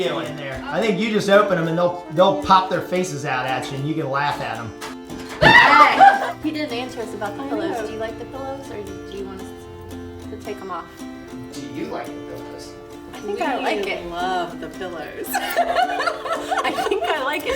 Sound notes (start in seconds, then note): 5.4 surprised screaming; 15.7 laughing